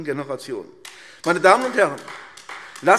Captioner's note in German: Beifall AfD